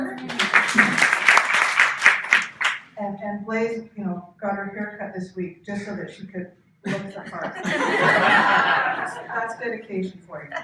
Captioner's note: cheering; laughter; cheering